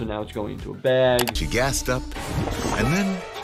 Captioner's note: computer mouse click